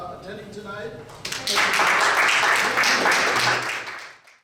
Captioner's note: audience applauds